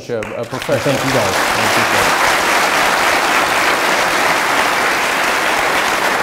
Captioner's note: audience applauding